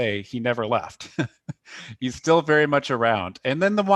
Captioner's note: laughter